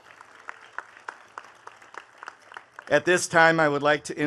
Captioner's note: attendees clapping